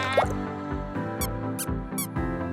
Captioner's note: squeaky steps